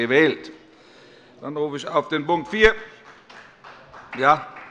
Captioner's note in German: Beifall bei Abgeordneten der CDU